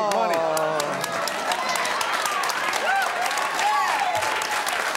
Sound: audience cheers

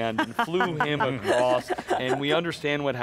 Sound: laughing

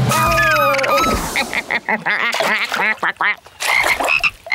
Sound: quacking; croaking

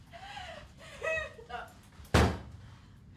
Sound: struggling, frustrated

